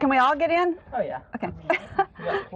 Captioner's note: laughs